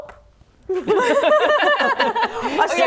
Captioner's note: laughing